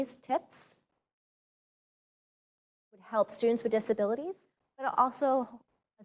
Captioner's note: audio out